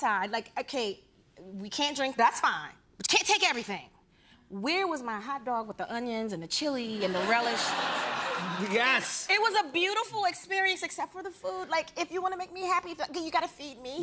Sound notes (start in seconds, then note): 7.0 laughter